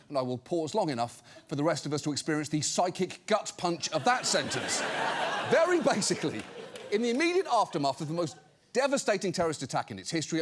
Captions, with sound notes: then I will pause long enough for the rest of us to experience the psychic gut punch -of that sentence. -(AUDIENCE LAUGHS) Very basically, in the immediate aftermath of the most devastating terrorist attack in its history,